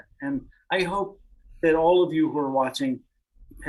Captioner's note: none